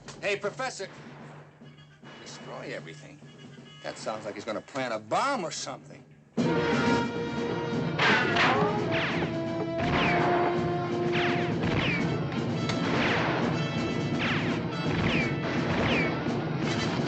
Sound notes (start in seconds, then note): 9.0 gunshots